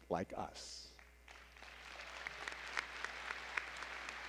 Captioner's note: applause